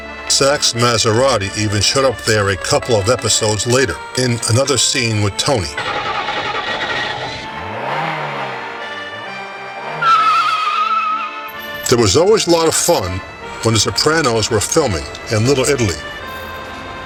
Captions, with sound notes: Sack’s Maserati even showed up there a couple of episodes later, in another scene with Tony. [Car revving engine] [Tires screeching] There was always a lot of fun when "The Sopranos" were filming in Little Italy.